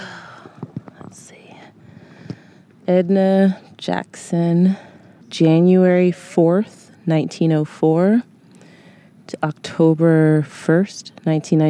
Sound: whispers

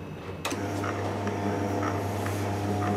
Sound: whirring

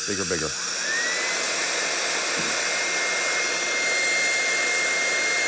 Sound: drying tool sound

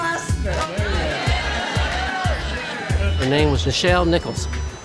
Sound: laughter

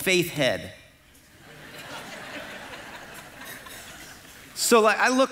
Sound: congregation laughing

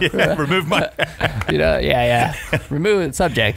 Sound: laughing

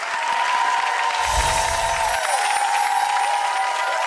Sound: audience clapping

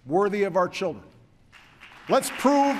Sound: applause

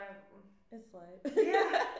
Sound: laughs

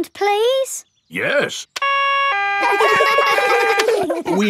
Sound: siren stops; siren wailing; kids laugh

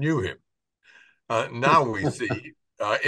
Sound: laughs

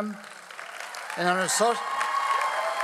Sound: audience applauds

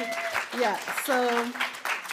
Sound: audience cheering; audience applauding

